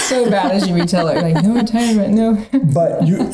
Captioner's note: laughing